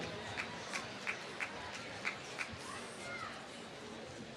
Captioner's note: applause